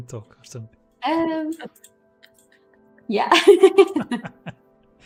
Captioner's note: laughs